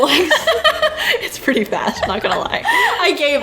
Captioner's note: laughs